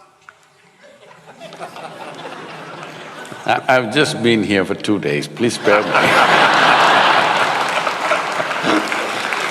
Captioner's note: laughter/Applause